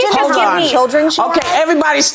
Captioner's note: hands clapping